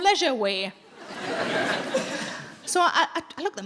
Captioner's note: audience laughing